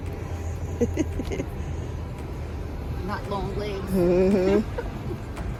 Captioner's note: chuckling